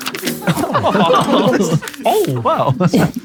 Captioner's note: people in room laughing